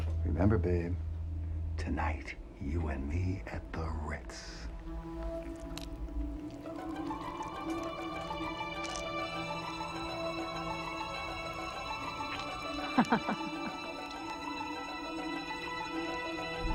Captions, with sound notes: - Remember, babe, tonight, you and me at the Ritz. (alien squelching) (suspenseful music) (laughing)